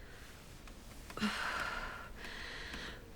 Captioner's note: exhales